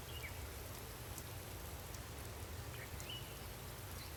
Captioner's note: birds chirping